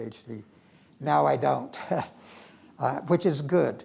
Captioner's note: chuckles